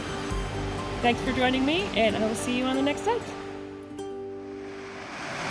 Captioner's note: relaxing music; waves crashing; relaxing music fades